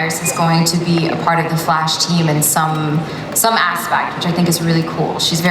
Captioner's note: none